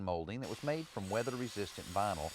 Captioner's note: saw whirring